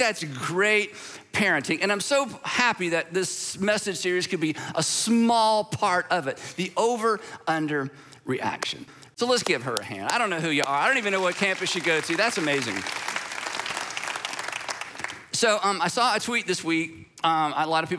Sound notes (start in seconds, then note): 13.6 congregation applauding